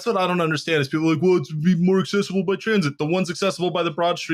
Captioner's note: mocking voice